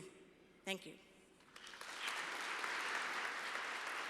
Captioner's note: applause